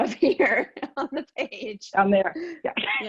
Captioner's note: laughs